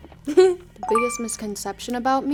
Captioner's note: laughing; bell chiming